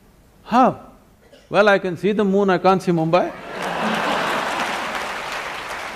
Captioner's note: laughter and Applause; 笑聲和掌聲